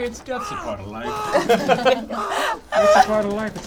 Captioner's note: all giggle